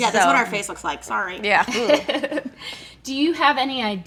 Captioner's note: laughing